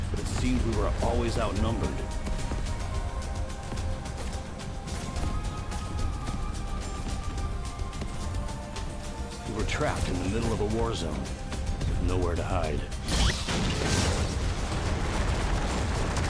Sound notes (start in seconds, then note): 3.3 dramatic music; 3.3 guns blasting; 13.7 loud banging